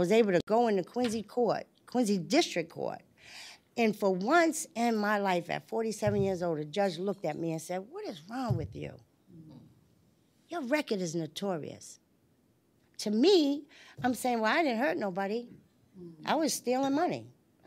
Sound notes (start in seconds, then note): none